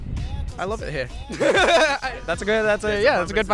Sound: laughs

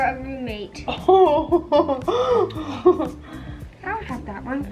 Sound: inhales sharply

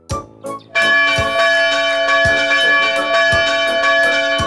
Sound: bell ringing

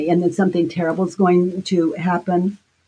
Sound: none

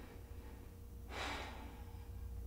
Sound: Efosa sighs

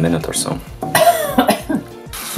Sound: coughing

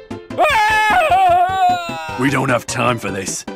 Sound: German Screaming

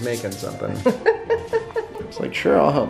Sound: laughs

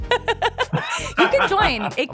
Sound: laughter

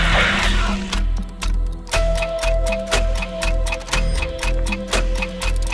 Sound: intense Clock Ticking

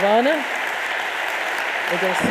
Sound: audience applauding

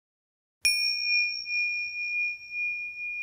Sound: bell dings

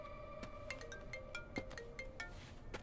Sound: phone Ringing

